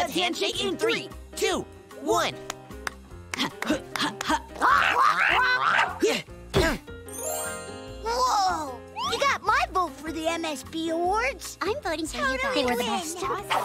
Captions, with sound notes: in Three. Two. One. [grunting] Whoa. You got my vote for the MSB awards. - I'm voting for you guys! - Totally win!